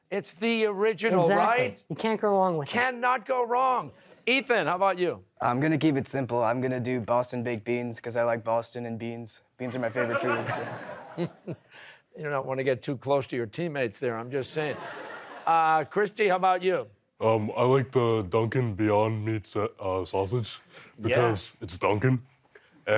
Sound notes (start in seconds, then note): 9.7 laughter; 9.8 chuckling